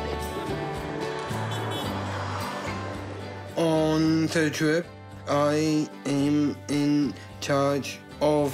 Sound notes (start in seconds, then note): 0.1 laughs; 1.4 car horn toots